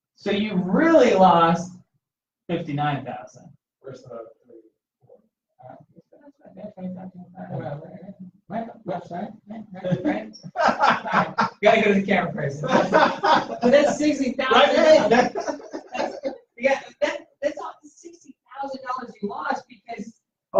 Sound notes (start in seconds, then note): 9.8 laughter; 12.6 laughter; 16.4 laughter